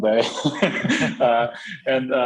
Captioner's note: both laughing